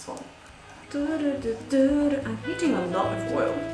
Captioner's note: humming cheerfully